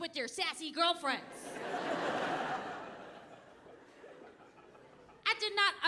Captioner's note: audience laughing